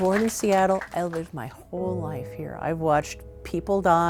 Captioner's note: applause